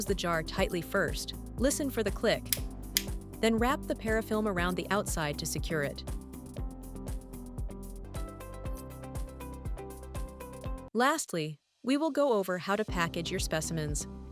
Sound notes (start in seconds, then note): 2.4 click sound